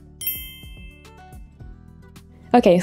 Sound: dinging sound effect

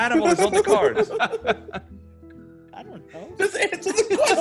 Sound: laugh

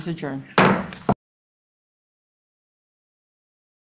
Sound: gavel bangs

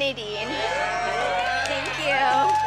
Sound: group cheers excitedly

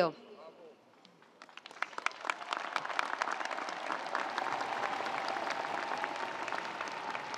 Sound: audience applauding; audience cheering

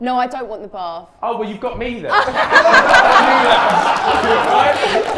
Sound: everyone laughs

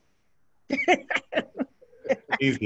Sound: laughs

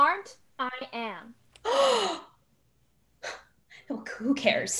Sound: Gabby Gasps

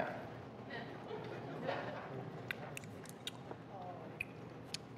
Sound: audience chuckles

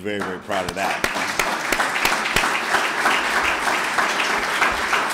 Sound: clapping

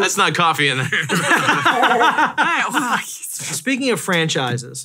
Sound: all laughing

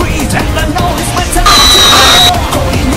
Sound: screeeeeech

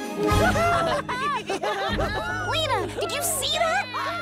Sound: boys cheering

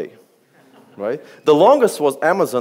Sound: audience laughs

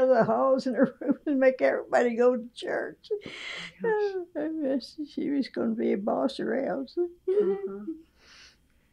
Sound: laughs

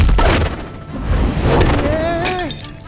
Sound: whimpering

